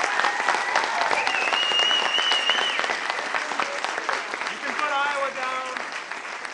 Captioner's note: audience cheering